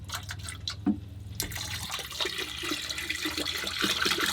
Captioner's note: liquid pouring